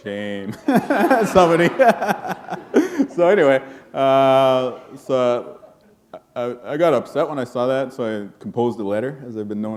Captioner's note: laughter